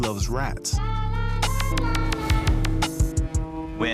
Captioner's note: ships' horns blare